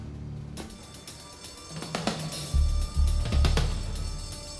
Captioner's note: alarm blaring